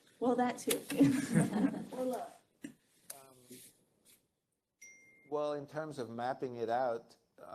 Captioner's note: laugh